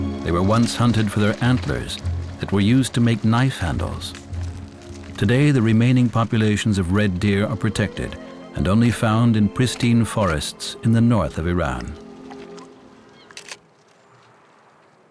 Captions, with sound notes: They were once hunted for their antlers that were used to make knife handles. Today, the remaining populations of red deer are protected and only found in pristine forests in the north of Iran. [camera clicks]